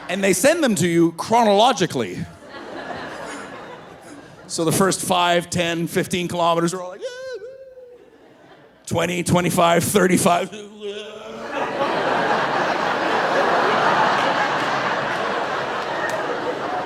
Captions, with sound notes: and they send them to you chronologically. (audience laughing) So the first 5, 10, 15 kilometers are all like, "Yeah, whoo," 20, 25, 35. (groaning) (audience laughing)